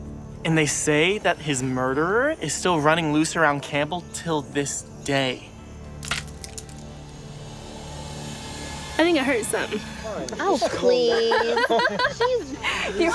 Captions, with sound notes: And they say that his murderer is still running loose around Campbell to this day. (stick snaps) - I think I heard something. - Oh, please. (group laughs)